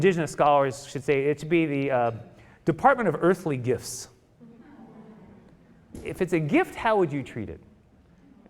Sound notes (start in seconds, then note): 4.4 audience murmuring